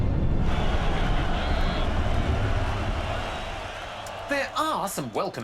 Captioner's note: cheering, applause